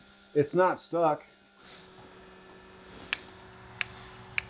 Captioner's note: machine hums